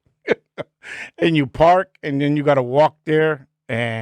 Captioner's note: laughing